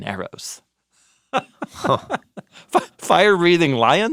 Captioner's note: laugh